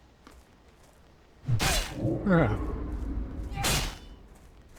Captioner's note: grunts